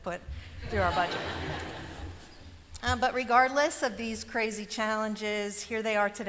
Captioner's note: laughter